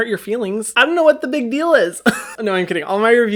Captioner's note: laughs